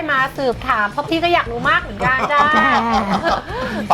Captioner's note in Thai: หัวเราะ